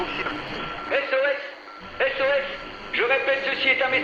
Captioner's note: morse Code sounds